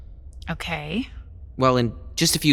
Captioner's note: hesitant